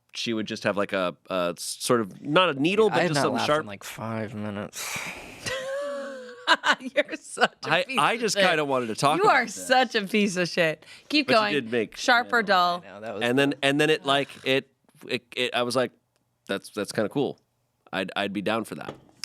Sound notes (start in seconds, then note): 5.4 laughs